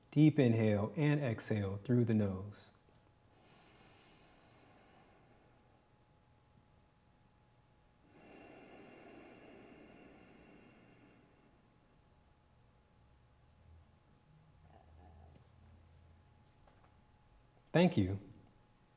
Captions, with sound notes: Deep inhale and exhale through the nose. (inhales) (exhales) Thank you.